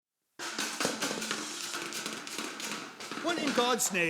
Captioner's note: crashing sounds